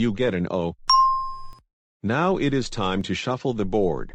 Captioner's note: ding